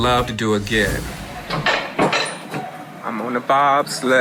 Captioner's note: bobsled clicking on track